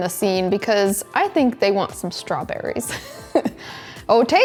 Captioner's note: chuckles